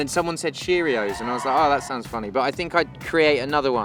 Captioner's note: audience cheering